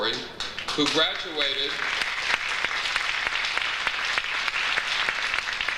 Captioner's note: audience applauds